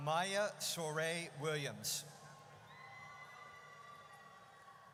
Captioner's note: audience cheers